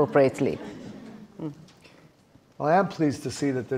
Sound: audience laughing

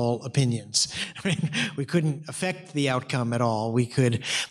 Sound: chuckles

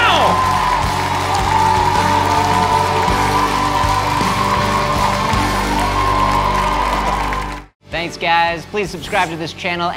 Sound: applause

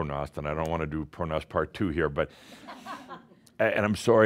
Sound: some chuckles

